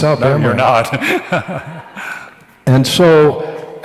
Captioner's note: laughs